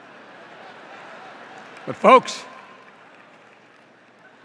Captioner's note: rising laughter